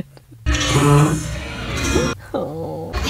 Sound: fart sound made by the raft

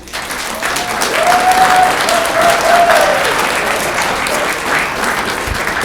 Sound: audience clapping and cheering

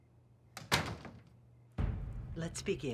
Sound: door closes

